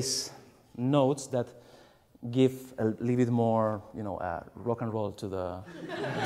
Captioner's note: laughs